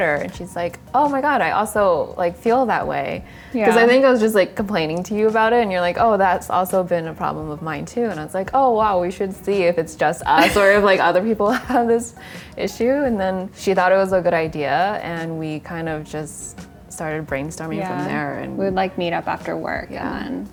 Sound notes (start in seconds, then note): 10.3 laughs